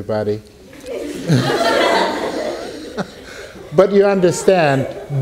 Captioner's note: laughing